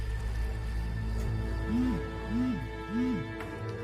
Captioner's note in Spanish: Vibra el celular